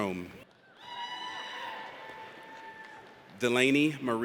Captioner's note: audience cheers